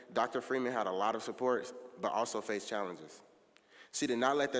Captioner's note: none